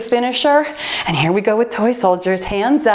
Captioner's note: timer beeping